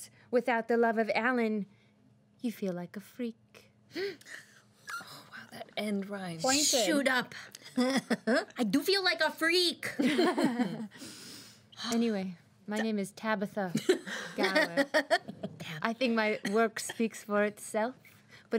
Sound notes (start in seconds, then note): 10.0 girls laughing